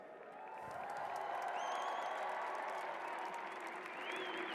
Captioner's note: cheers and applause